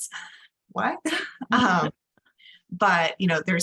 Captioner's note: laugh